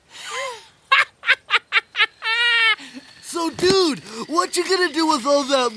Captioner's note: laughing